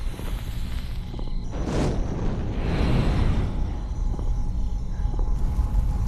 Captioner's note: flame whooshing